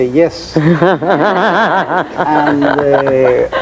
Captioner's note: laughing